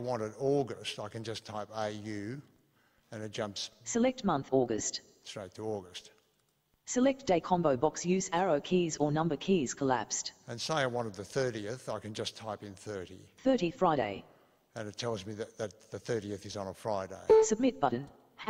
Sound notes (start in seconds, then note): none